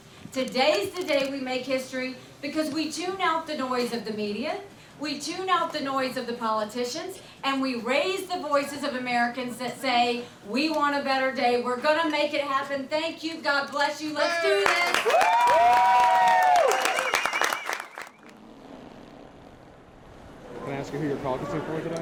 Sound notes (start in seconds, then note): 14.2 applause; 18.1 silence